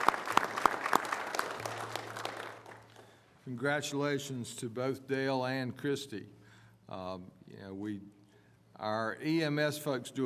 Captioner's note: applause